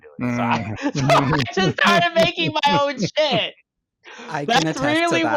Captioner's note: cackles